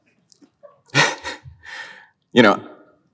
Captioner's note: chuckles